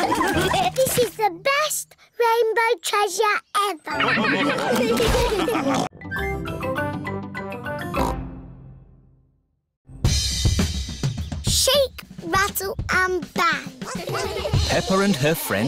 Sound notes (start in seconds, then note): 0.0 all laugh; 3.9 all laugh